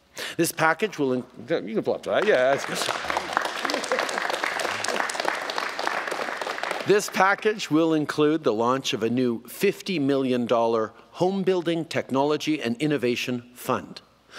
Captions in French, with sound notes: Cette enveloppe va… oui, vous pouvez applaudir cette nouvelle, oui! (Applaudissements) Cette enveloppe va notamment permettre le lancement d’un nouveau Fonds pour l’innovation et la technologie en construction résidentielle doté de 50 millions de dollars.